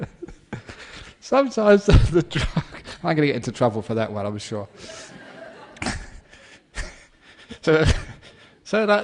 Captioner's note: laughter; laughter